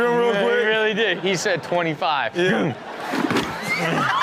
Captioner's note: imitates thud; man thuds